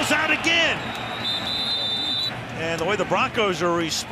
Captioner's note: whistle blows